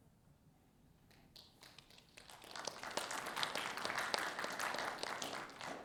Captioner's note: audience applauding